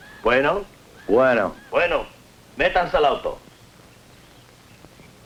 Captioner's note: speaking spanish